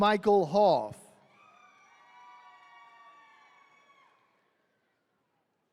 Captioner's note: attendees cheering